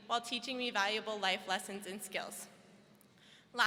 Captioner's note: none